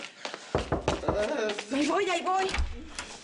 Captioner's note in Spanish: Toques en la puerta